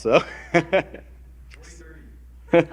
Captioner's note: laughter; laughter